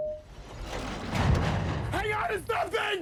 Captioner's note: sounds of trailer being pushed off cliff side